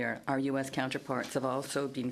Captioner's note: speaking in French